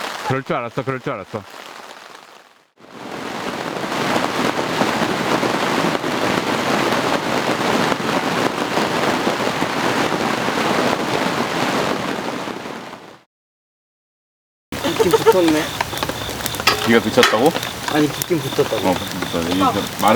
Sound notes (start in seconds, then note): 6.5 rain pounding hard through the night